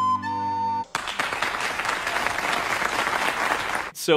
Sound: applause

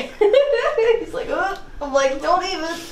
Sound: laughs

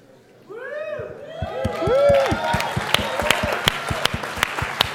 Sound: applause

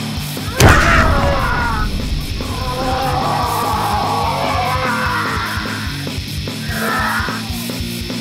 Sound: beastmode growling

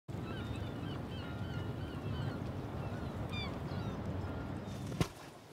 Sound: sea sounds

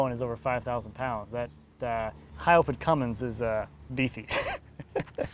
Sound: snickers

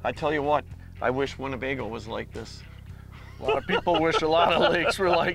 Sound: laughing

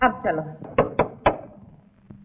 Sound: door knocks

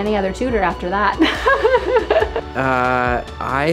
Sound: laughing

